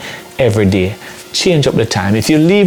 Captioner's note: speaking patois